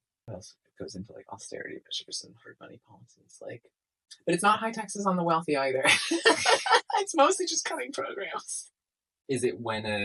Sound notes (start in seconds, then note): 5.8 laughter at the class warfare